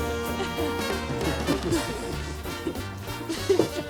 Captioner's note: both laughing